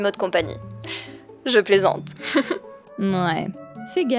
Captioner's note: laughs